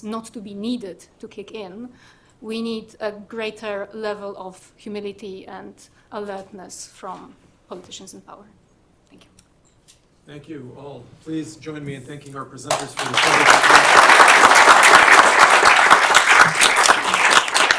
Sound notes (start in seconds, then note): 12.6 applause